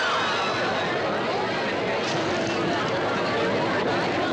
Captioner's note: audience screams; audience chattering